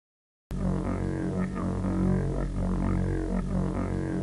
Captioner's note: pulsing energy